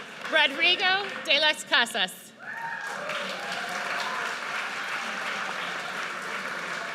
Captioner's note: audience cheers